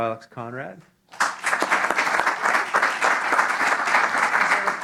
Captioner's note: applause